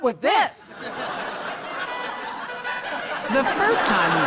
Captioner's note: audience laughs